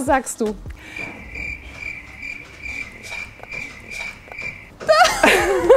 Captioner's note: crickets; both laugh